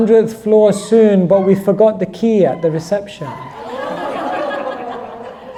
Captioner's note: audience laughter